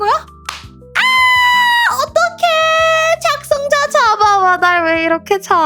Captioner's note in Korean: 비명